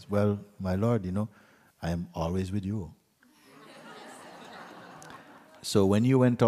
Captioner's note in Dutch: gelach